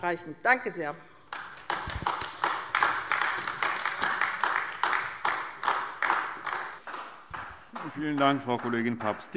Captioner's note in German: Beifall AfD